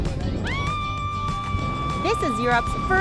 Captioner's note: screaming